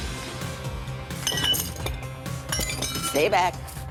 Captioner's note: glass clattering